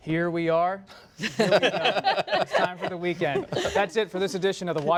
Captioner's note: laughter